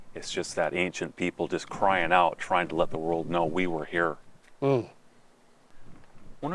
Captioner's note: none